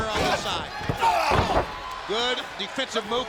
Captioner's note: Booker grunting